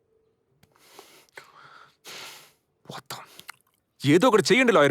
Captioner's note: exhales sharply